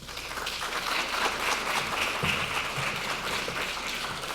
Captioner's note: applause